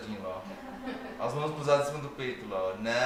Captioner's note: laughs